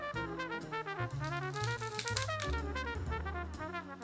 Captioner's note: stems breaking